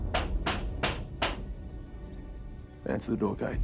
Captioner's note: door knocks